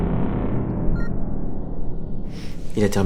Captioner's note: computer beeps